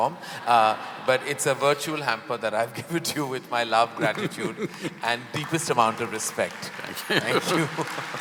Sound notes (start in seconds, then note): 4.0 both laugh; 5.3 applause; 6.9 both laugh